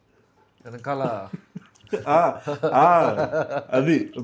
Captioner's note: laughs